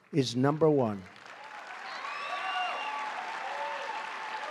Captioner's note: applause